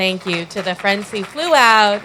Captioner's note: applause